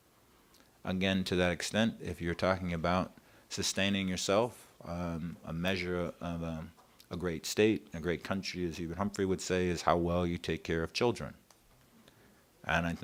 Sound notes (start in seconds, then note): none